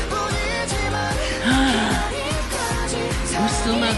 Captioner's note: gasp